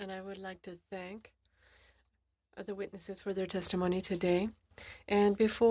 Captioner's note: speaking French